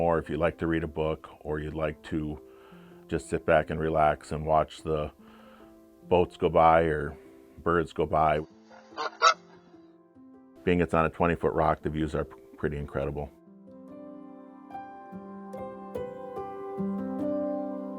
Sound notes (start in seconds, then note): 8.9 bird squawking; 14.1 light music continues